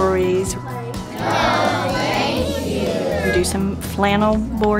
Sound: children in unison "No Thank You"

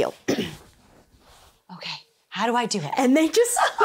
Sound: clears throat; laughs

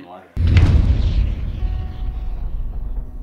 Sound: fire whooshing; dramatic piano music

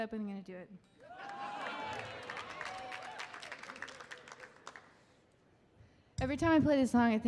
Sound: audience applauding and cheering

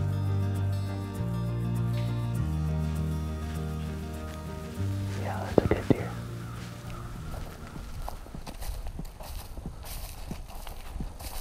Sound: whispering

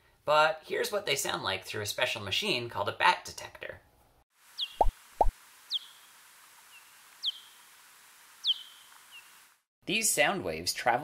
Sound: big brown bat call

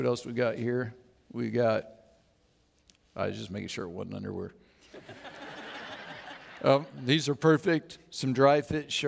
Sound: audience laughs

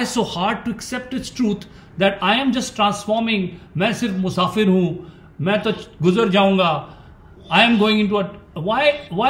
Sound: speaks in Hindi – not transcribed

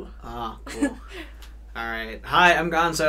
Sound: laughs

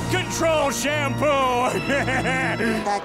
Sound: laughing

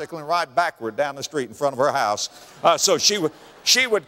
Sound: audience laughter

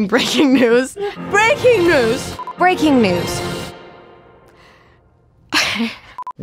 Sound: sigh

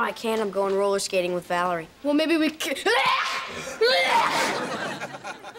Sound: sneezing

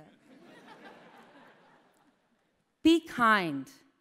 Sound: laughter

